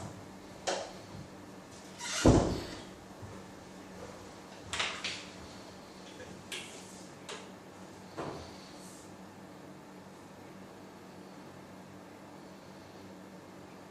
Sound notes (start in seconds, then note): 2.1 door banging